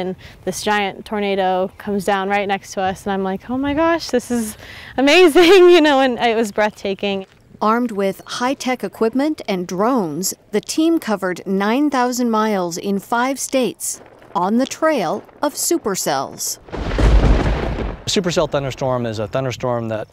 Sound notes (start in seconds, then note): 16.8 thunder crashes